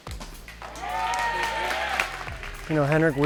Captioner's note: cheering